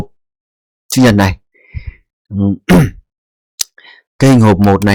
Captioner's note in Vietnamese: hắng giọng